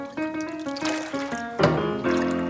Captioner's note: tasting